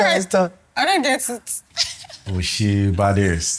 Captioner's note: laughs